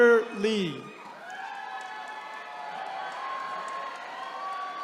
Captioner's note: attendees cheering